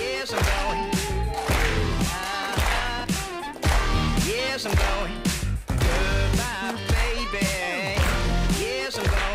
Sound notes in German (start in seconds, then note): 3.9 Rhythmisches Klatschen